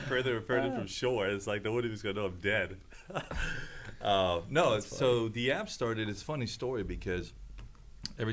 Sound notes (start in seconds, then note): 4.1 laughs